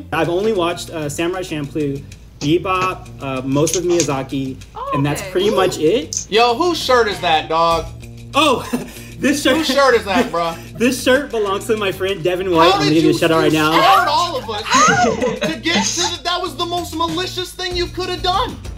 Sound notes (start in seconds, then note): 8.4 laughs